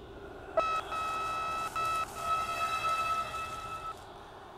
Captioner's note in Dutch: opnieuw piep van ver weg